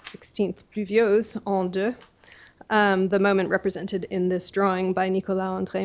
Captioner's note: french